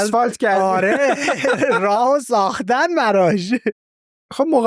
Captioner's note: laughs